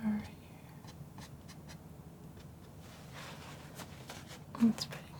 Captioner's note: scratching